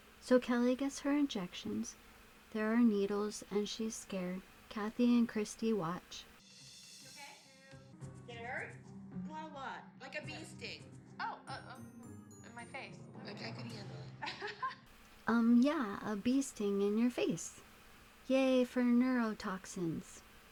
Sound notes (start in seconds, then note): 14.2 laughs